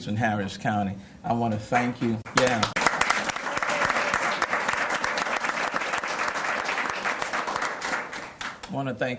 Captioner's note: cheers and applause